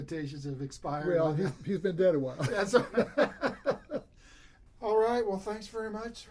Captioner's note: laughs